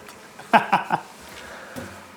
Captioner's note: laughs